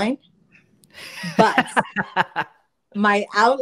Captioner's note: laughs